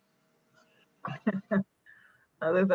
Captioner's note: laughs